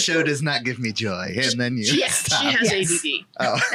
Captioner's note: laughs